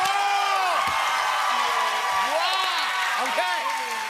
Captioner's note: cheers and applause